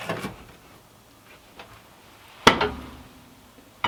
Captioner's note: log thudding